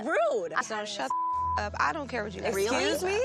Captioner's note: beep